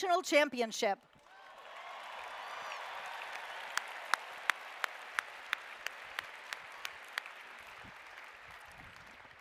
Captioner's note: applause